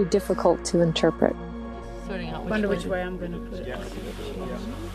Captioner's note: background chatter